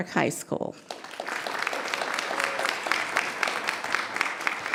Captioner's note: applause